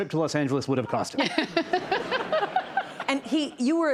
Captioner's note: laughter